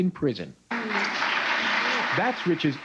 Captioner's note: audience applauds